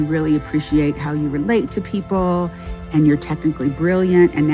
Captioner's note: none